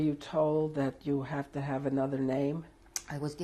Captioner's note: none